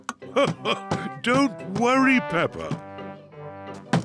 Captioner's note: laughs